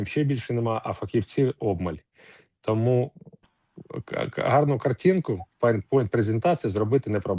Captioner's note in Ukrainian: сопіння